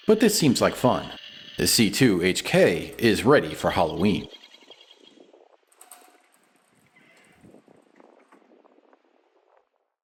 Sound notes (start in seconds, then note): 7.2 large door closes